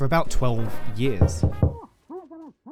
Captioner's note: knock Knock Knock